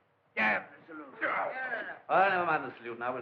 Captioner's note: Guard Grunts